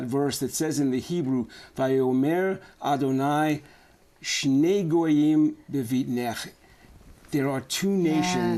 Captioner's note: speaking hebrew